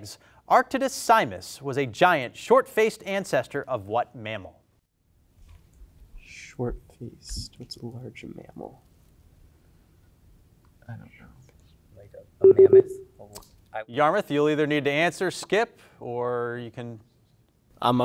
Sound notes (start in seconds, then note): 12.5 buzzer pulses